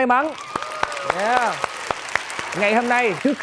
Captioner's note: applause